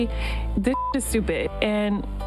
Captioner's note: beep